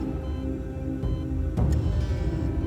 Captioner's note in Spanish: Bip del monitor